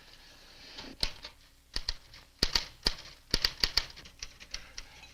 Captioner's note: typewriter clacks